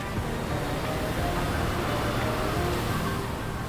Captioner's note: wave crashing